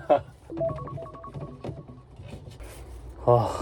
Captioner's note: alarm signaling the end